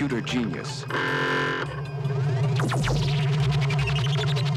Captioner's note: sci-fi effects